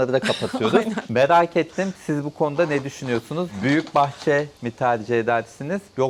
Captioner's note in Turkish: kahkaha